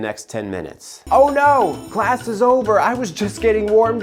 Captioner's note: bell ringing